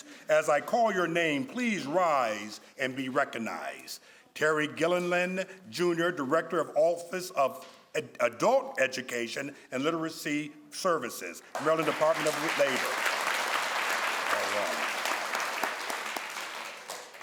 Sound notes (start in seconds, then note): 13.5 crowd applauds